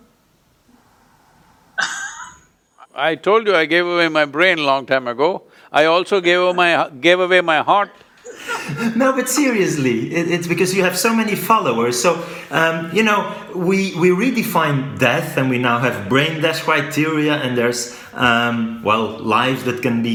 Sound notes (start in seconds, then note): 8.2 laughter